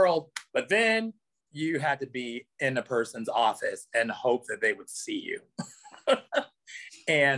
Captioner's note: laughs